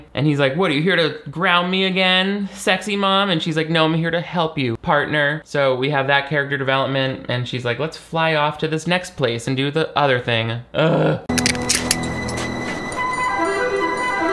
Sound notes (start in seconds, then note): 10.7 groans; 11.3 playful music